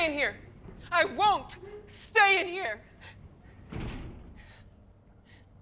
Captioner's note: door closes